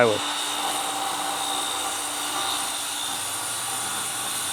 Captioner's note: saw whirring